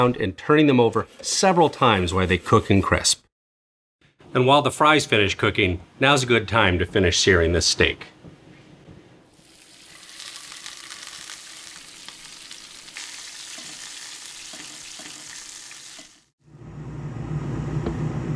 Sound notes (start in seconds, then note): 9.3 steak searing